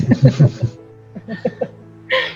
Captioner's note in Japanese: 笑い